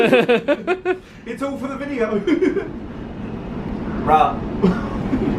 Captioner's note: chuckles